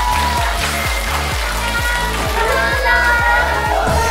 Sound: the students cheer for them

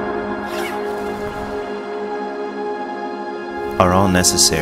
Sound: zipper scratching

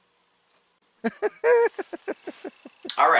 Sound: laughing

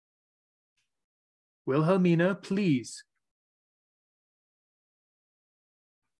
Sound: silence

